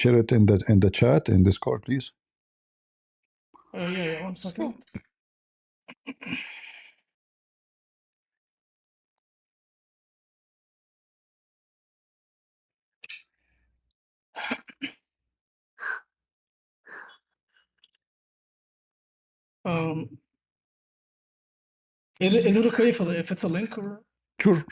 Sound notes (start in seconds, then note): 7.2 clears throat; 15.2 clears throat; 15.2 gasps and sighs